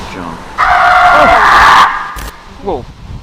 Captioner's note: screaming